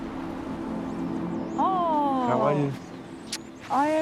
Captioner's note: kisses